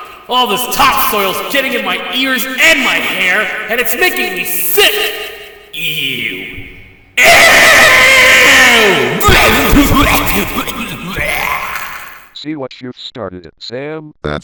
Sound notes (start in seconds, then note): 9.2 barfing